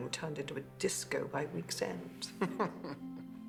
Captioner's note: chuckling